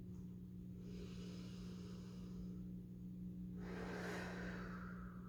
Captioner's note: deep breathing